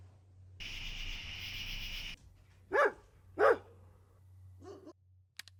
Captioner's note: dog barking